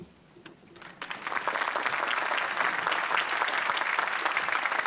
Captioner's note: applause